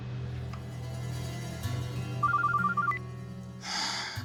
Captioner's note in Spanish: suena el celular